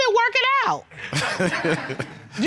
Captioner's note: laughs